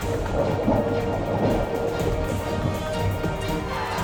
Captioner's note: water gurgles